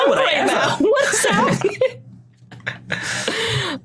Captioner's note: group giggling